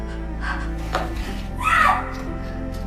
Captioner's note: Hannah screams